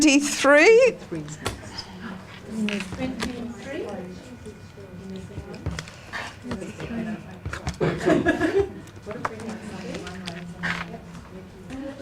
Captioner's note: audience chatter